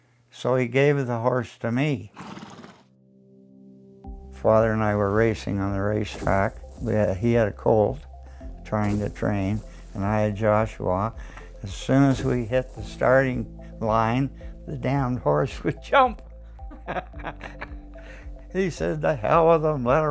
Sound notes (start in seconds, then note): 2.1 snorts; 16.6 laughs